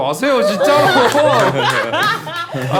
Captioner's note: whining